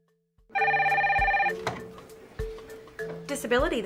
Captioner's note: phone ringing